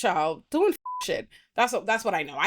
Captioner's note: beep